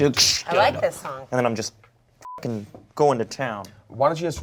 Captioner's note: beep